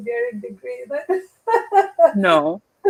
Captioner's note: laughter